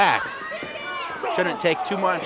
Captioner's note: audience shouts